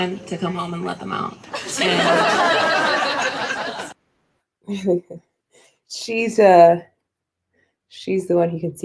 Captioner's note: laughter